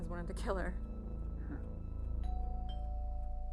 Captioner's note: doorbell ringing